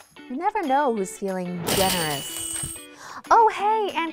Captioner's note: cash register chimes